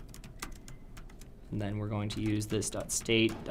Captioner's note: typing Noises